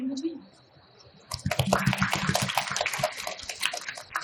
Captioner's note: applauding